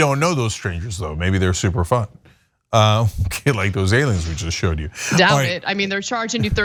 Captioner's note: laugh